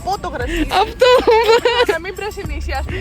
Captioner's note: giggles